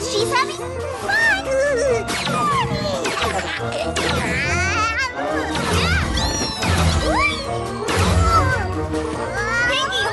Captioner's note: baby gurgling happily